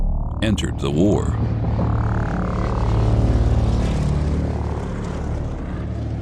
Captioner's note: airplane engine roaring